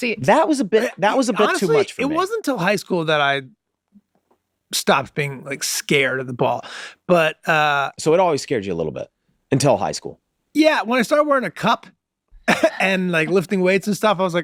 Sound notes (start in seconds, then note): 12.4 laughing